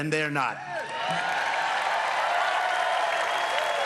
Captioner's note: cheers and applause